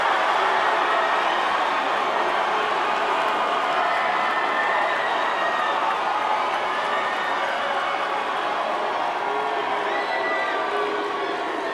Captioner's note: cheers & applause